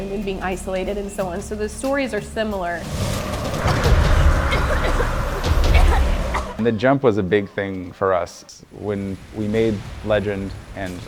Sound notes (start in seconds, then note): 3.4 dramatic music; 4.6 Lara coughing